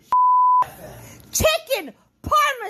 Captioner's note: beep